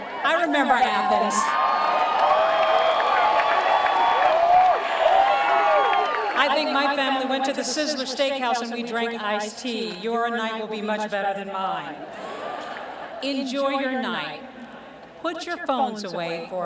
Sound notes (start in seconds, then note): 2.2 cheering